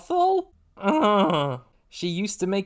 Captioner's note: despairing groan